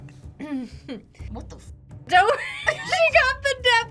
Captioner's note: laughs